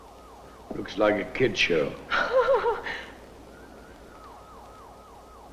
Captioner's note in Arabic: السيدة كولينز تضحك; موسيقى محيطة غريبة